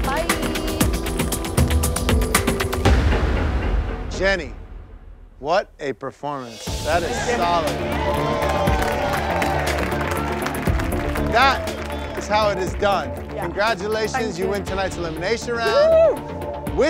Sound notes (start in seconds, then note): 6.8 cheering and applauding